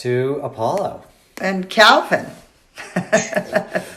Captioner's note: chuckles